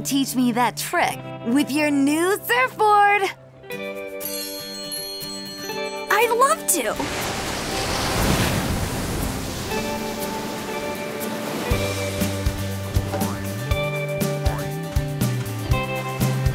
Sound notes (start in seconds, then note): 6.7 waves crashing; 11.7 gentle music